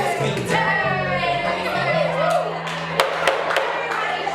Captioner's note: jury hooting and hollering